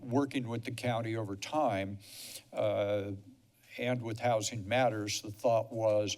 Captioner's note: snuffle